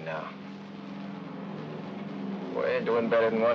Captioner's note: aircraft rumbles in distance